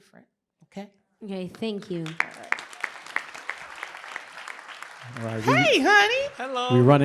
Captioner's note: applause